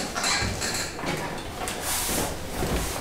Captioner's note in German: Sessel quietscht